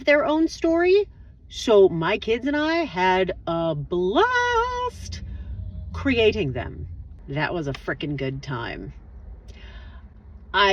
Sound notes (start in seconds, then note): 5.0 blast